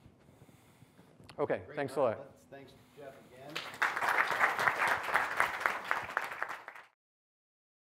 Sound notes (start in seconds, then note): 3.4 applause